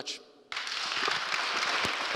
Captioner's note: applause